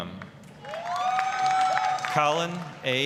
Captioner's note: applause, cheering